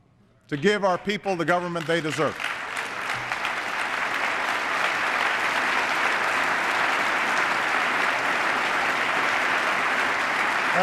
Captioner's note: applause